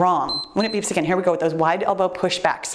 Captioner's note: timer beeps